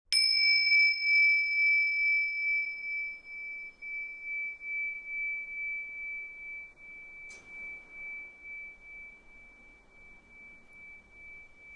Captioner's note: bell sounds